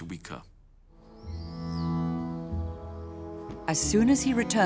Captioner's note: gentle music; birds chirping